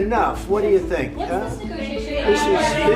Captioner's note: reporters shout questions